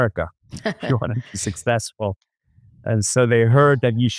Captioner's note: laughs